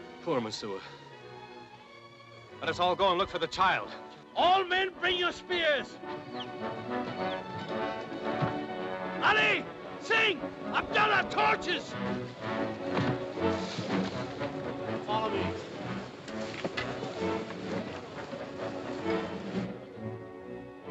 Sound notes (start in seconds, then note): 6.7 dramatic music; 11.6 bodies shuffling; 12.0 dramatic music; 16.8 bodies shuffling; 16.8 dramatic music